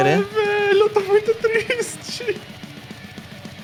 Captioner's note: laughter